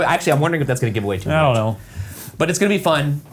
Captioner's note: none